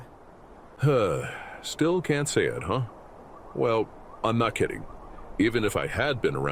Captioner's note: sigh